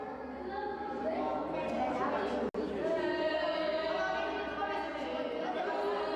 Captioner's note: chanting